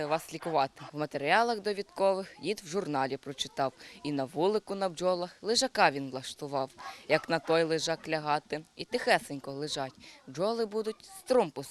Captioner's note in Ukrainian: декламує вірш